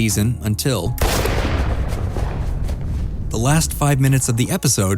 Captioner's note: gunshot